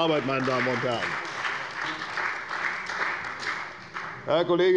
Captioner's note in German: Beifall bei der CDU und dem BÜNDNIS 90/DIE GRÜNEN